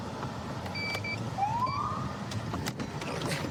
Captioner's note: siren chirps